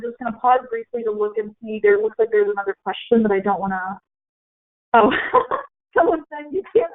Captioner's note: laughing